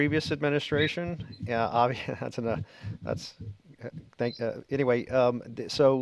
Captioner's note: chuckles